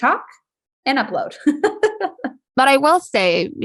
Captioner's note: laughs